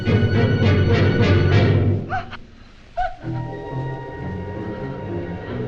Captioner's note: Christine gasping